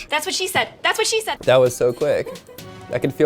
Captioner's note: offscreen woman giggling